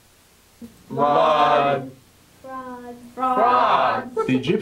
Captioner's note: reciting plagues